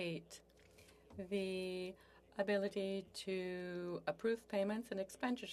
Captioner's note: speaking French